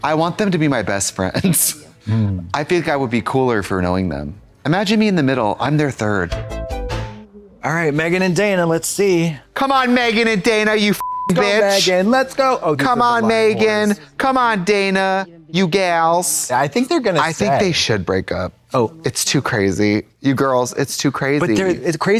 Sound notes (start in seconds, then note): 6.4 synth bop; 11.0 beep